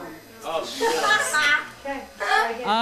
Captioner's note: group laughing